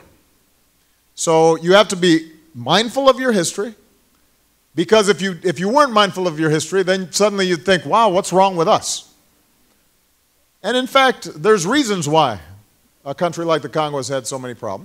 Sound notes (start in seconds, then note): none